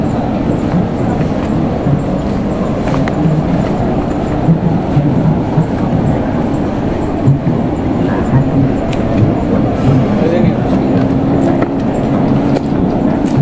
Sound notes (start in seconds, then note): 9.1 fire